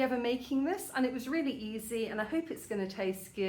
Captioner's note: none